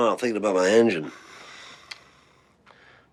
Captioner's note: sighing